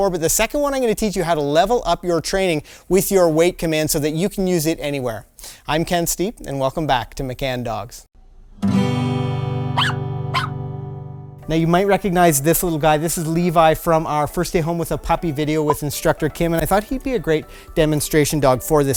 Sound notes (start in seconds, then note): 8.6 gentle guitar chord; 9.7 dog barking